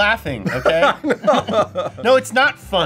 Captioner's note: laughs